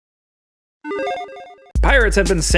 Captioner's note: game tone chiming